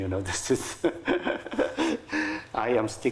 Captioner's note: laughing